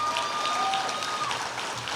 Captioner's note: cheers and applause